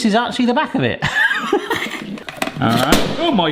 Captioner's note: laughs